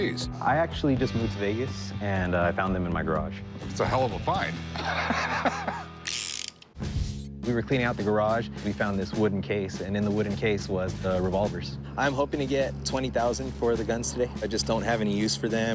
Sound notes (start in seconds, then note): 4.7 laughs; 6.1 revolver cylinder spinning